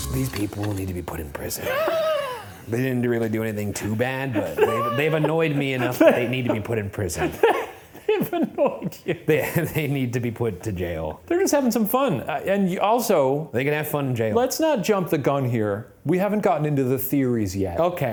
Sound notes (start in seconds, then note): 1.5 laughs; 7.7 laughs